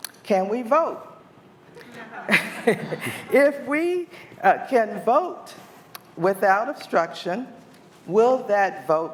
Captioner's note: laughter